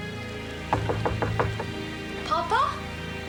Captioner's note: knocking